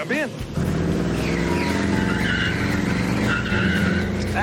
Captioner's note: tires screech